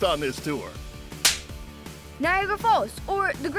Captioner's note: palm smacking